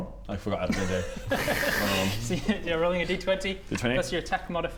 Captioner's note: laughs